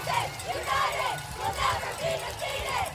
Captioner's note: chanting